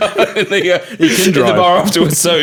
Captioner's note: laughing